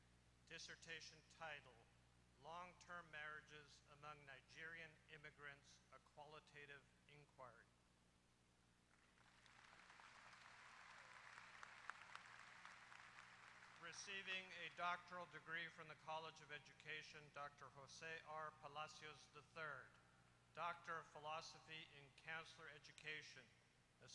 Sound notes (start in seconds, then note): 8.9 applause